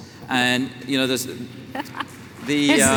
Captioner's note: applause